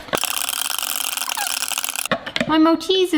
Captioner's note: metal utensil clinks